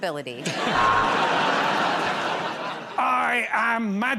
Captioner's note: buzzer buzzes